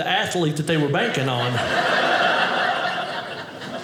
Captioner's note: audience laughing